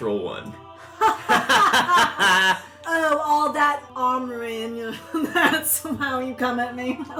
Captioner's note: LILIANA and ZYZZIX laugh